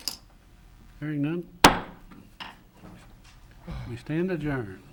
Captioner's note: bangs the gavel